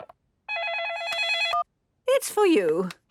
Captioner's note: dial tones beeping; ringing